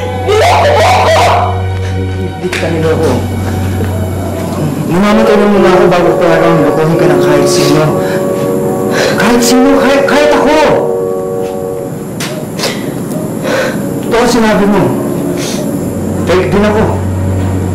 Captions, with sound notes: You deceived me! Judith, I didn't deceive you. I'd die first before I let anyone deceive you. -[sobs] -Anyone at all, even myself! [sniffles] What you said is true. I'm fake, too.